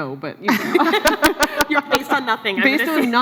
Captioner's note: laughs